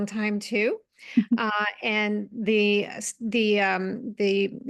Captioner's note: laugh